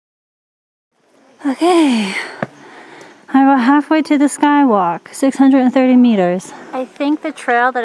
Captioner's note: heavy breathing